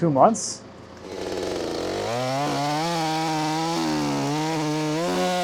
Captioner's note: chainsaw whirring